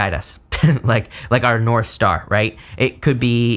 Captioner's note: chuckles